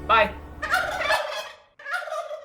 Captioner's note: gobble sound